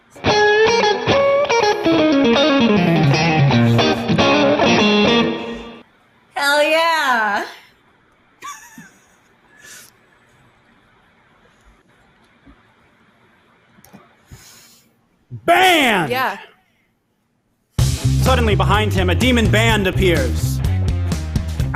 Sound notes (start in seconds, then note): 0.3 lute shreds upbeat tune; 8.4 laughs